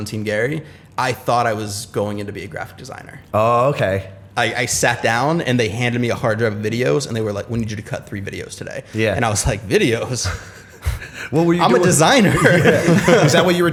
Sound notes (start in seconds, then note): 10.2 chuckle; 11.4 laughter